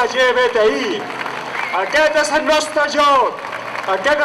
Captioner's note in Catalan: aplaudiments